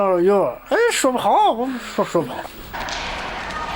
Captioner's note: non-english speech